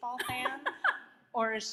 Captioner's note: laughs